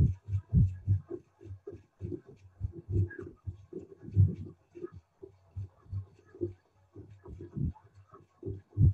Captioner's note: none